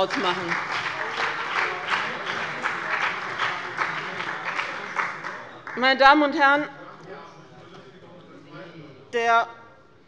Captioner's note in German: Beifall bei dem BÜNDNIS 90/DIE GRÜNEN und der CDU